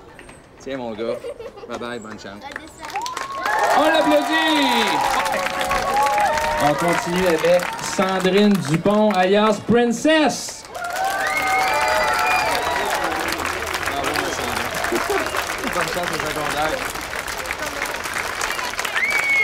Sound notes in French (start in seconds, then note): 10.6 applaudissements; 10.7 acclamations